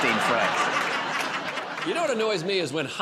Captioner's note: laughter